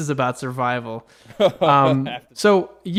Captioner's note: laughs